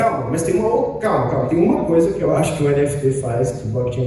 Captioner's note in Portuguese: none